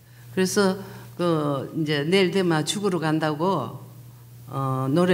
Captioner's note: speaking foreign language